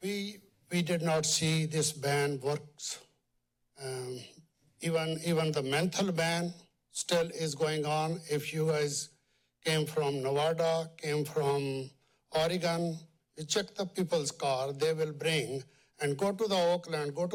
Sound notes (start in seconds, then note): none